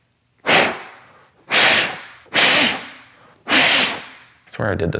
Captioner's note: blows